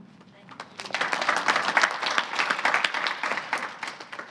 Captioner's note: audience applauding